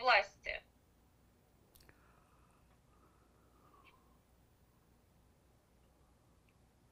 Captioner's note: pauses 11 seconds